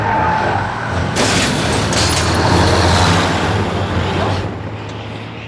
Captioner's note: gate crashes; dramatic music